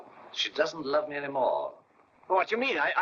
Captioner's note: none